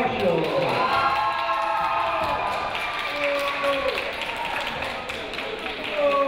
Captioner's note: crowd noise, cheers and boos